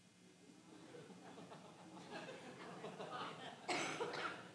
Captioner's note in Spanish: la congregación se rie